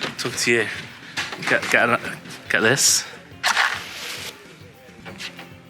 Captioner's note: sparking match noise